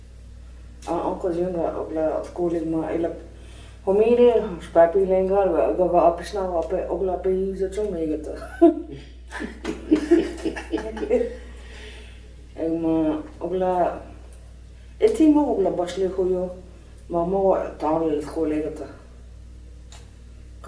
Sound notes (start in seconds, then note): 9.3 laughter